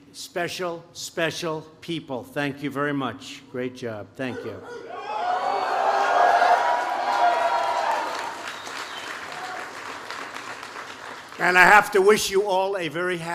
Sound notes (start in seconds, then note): 6.1 applause